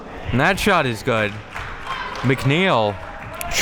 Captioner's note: spectators applauding